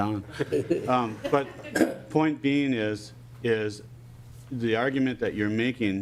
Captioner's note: laughing